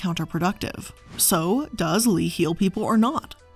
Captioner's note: air whooshing